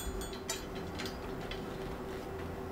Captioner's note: distant whirring